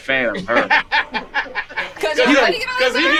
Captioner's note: group laughing